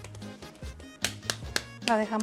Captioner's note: slaps dough